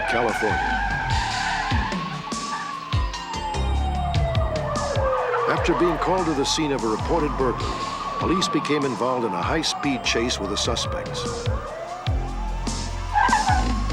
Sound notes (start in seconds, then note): 0.2 tires screech; 2.6 sirens wail